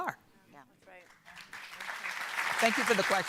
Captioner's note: audience applauding